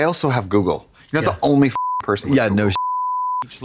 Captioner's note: beep